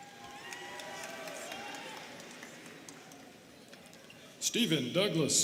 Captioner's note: students cheering and clapping